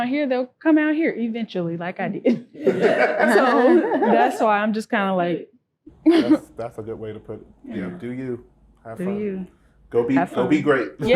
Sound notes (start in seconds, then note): 2.3 group laughing